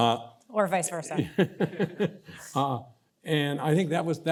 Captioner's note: laughs